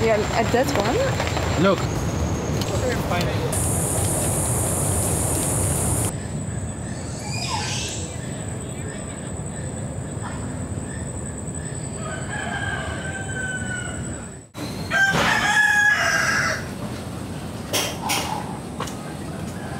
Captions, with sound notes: and that's one? - Look. (birds chirping) (rooster howling) (rooster howling)